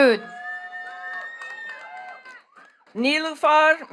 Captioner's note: attendees cheering and clapping